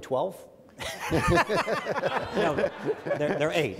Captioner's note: men laugh